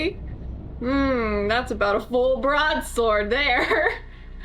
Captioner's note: laughs